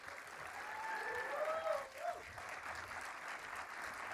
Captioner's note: everyone applauding